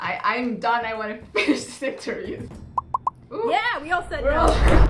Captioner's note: laughs